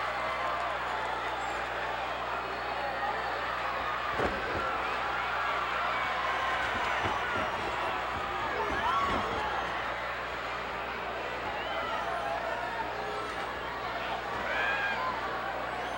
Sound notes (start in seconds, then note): 11.3 boos